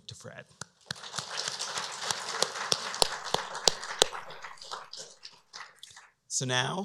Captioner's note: applause